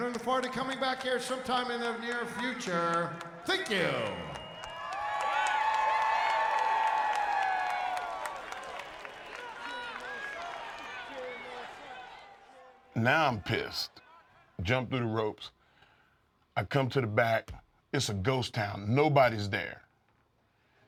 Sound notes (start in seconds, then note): 4.2 applause